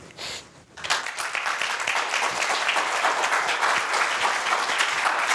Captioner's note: audience applauds